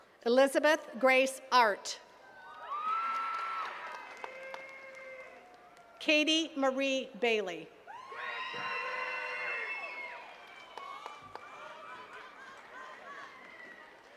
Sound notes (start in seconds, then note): 2.2 attendees cheering and clapping; 7.9 attendees cheering and clapping